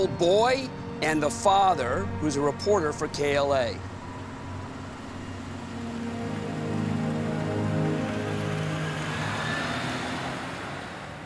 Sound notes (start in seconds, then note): none